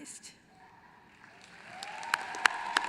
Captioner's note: applause